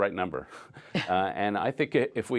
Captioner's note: laughter